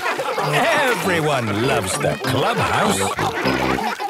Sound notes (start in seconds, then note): 2.9 all laughing